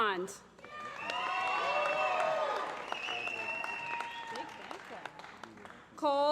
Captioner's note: applause